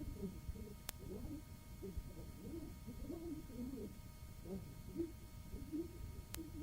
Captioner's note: speaking in foreign language